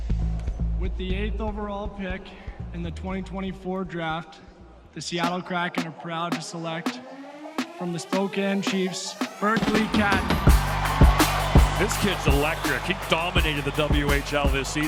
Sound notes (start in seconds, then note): 9.2 crowd cheering; 10.2 upbeat music